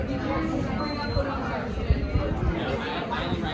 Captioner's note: beep beep